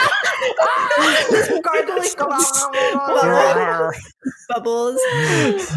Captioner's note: gargling sounds